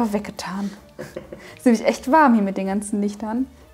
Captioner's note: laughing